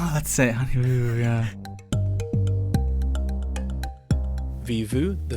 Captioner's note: voiceover